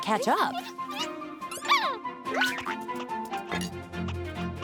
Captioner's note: squeaking